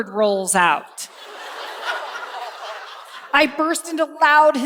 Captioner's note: laughter